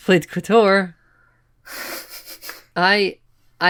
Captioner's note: snicker